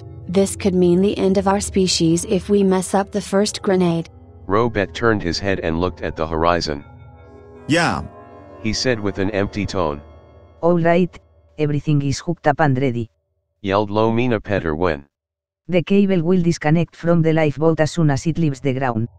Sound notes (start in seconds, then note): 8.4 he said with an empty tone